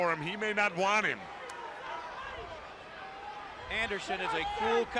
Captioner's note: crowd chatter